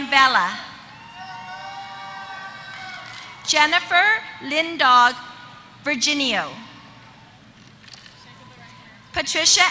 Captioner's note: applause